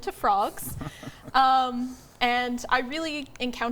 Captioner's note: chuckles